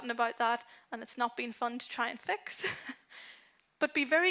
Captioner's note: chuckles